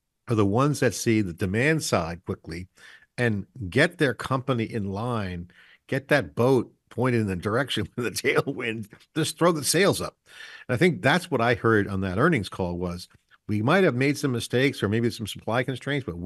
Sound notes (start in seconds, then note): 8.8 chuckles